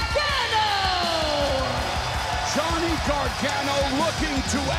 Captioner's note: crowd cheering